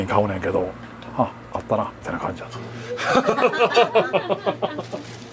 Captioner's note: laughs